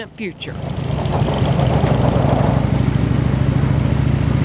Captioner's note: engines rumbling